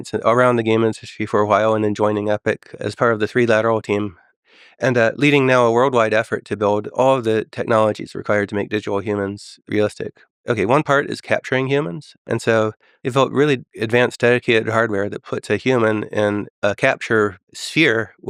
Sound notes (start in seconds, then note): none